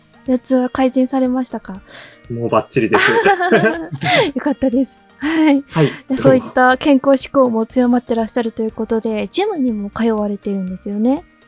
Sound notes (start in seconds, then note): 2.9 laughs